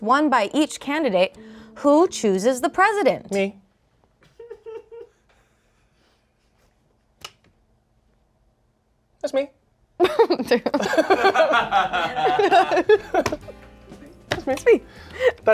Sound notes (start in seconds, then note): 10.0 everyone laughs